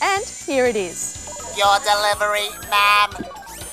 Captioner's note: robotic voice